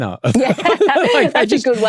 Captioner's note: laughter